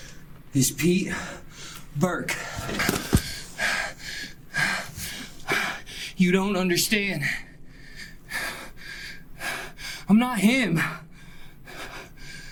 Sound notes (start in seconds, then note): 3.8 Pete panting; 9.4 panting